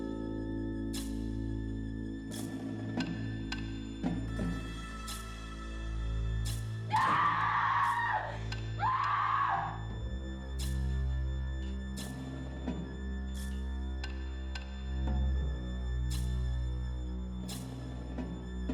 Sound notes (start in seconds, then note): 4.5 screaming